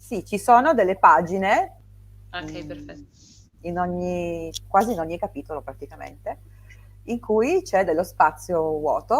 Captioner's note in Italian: sbuffare